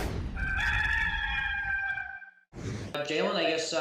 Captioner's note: gamecock crowing